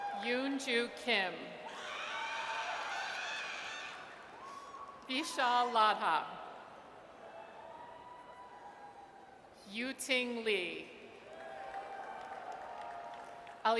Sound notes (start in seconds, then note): 1.7 audience cheers; 6.7 audience cheers; 11.3 audience cheers